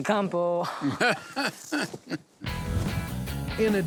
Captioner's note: laughing